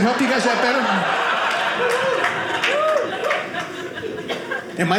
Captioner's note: audience cheering